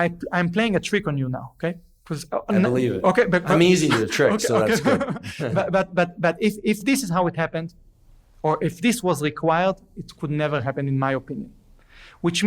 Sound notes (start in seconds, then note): 4.4 laughs